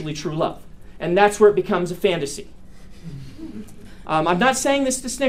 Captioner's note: students snicker